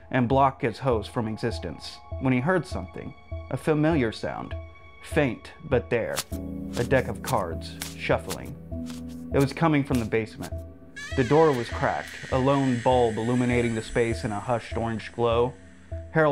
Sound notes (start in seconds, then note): 6.3 cards shuffling; 11.0 hinge creaking